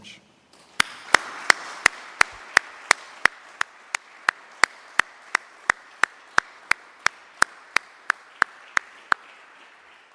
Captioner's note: applause